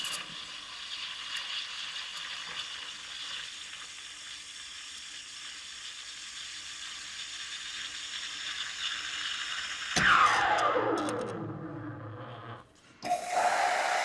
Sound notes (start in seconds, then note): 10.0 fading hissing; 13.0 hissing